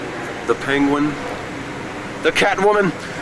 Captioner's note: none